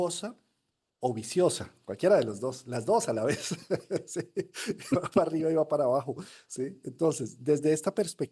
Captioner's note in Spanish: risas